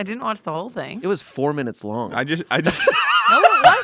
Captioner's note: laughs